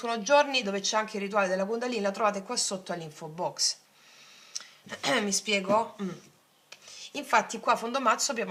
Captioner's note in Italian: schiarire la voce